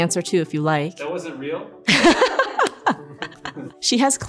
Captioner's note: laughs